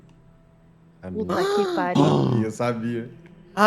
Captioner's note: gasps